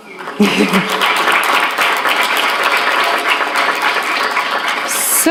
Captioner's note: applause